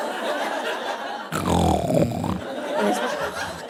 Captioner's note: audience laughing; snores loudly; snorts